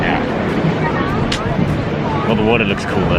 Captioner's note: clicks tongue